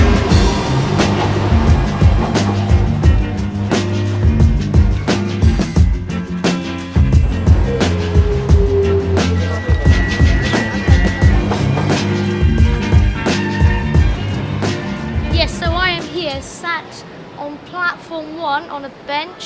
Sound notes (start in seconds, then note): 9.7 sound of doors opening; 11.7 sound of train departing